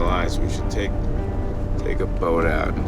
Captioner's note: none